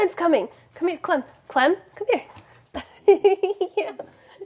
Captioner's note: laughs